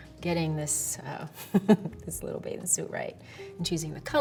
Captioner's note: chuckles